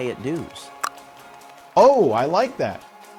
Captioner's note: clicks tongue